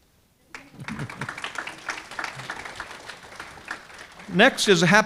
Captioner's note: audience clapping